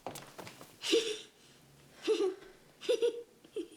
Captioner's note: giggles